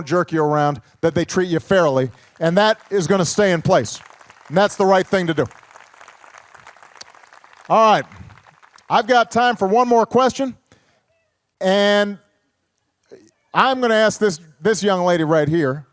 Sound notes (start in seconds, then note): 5.8 applause